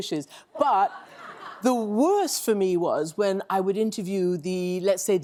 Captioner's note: laughter